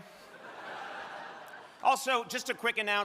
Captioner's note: crowd laughing